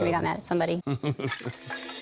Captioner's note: chuckles